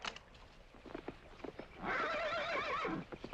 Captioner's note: hooves pounding; horse neighing